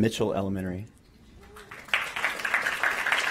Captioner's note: applause